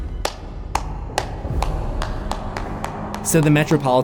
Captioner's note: clapping